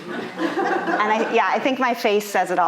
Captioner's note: audience laughing